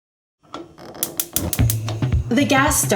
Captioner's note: gas stove clicking